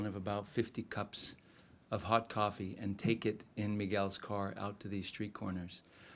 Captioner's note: none